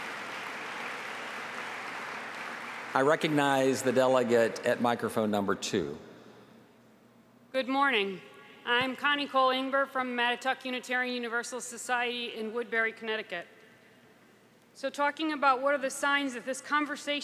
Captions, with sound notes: [APPLAUSE] >> * >> I RECOGNIZE THE DELEGATE AT >> GOOD MORNING. I'M CONNIE COLE EMBER FROM MONEY